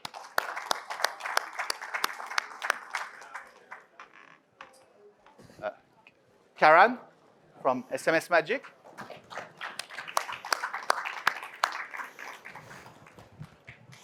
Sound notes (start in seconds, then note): 0.0 audience claps; 9.0 audience claps